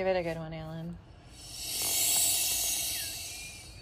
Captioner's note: chicken inhales; more wheezing